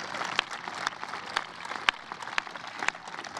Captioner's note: cheers